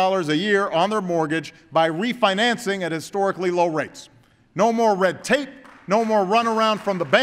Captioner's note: applause